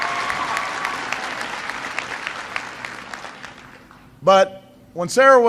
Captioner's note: applause